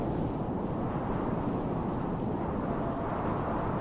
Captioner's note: wind whooshing